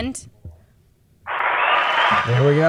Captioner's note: applause